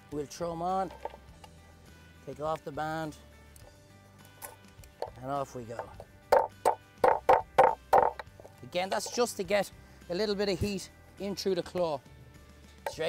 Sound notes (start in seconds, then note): 7.0 knife hitting shell